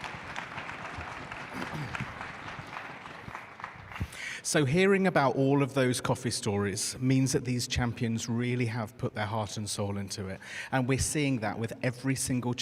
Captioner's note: applause